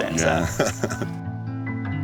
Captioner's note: laughs